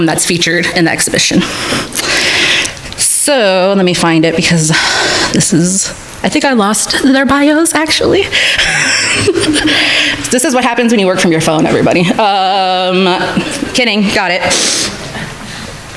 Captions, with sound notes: that's featured in the exhibition. So let me find it because this is, I think, I lost their bios actually. (chuckles) This is what happens when you work from your phone, everybody. Kidding, got it.